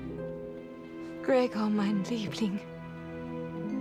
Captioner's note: speaks foreign language